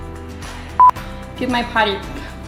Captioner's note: beep